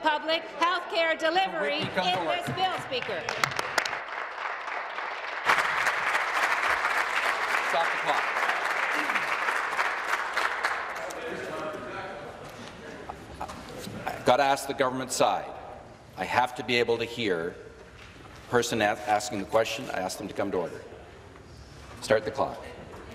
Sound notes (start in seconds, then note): 7.5 applause